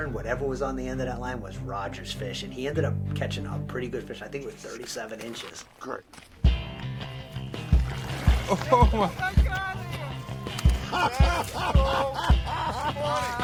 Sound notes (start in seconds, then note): 6.5 intense music; 9.0 laughing